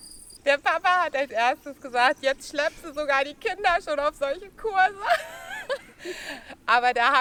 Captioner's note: laughs